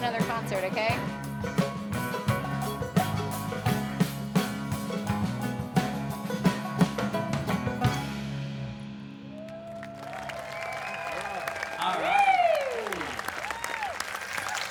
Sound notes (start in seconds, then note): 2.1 rhythmic bluegrass music; 9.2 audience cheers and applauds